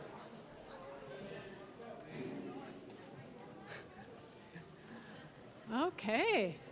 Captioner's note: general chatter